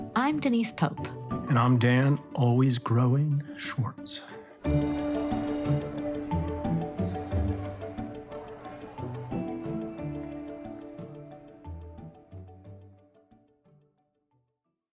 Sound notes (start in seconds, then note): 4.6 bell ringing; 4.9 lively music